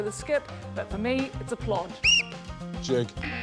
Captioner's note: blows whistle; buzz!